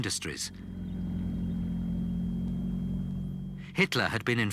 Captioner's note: engine rumbling